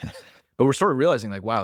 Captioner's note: laughs